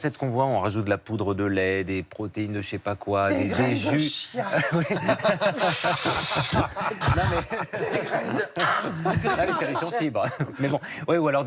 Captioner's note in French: rires